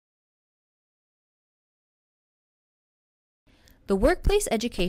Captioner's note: silence